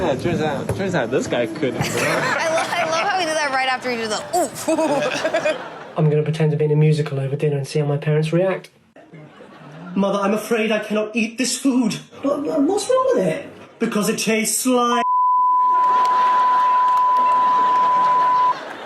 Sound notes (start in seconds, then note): 3.7 all laugh; 4.2 chuckles; 15.0 beep; 15.8 all laugh